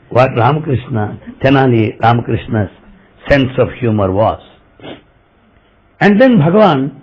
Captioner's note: laughter